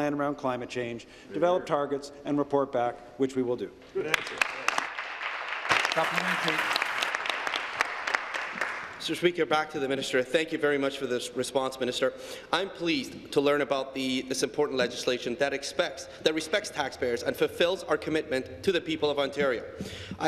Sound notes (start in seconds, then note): 7.2 applause